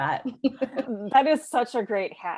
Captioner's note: both laughing